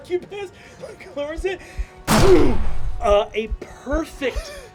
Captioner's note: sound of gunshot